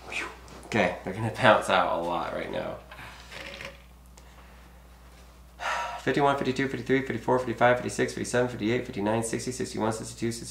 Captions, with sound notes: Phew! Okay, they're gonna bounce out a lot right now. (sighs) 51, 52, 53, 54, 55, 56, 57, 58, 59, 60, 61, 62, 63,